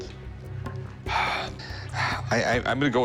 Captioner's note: sighs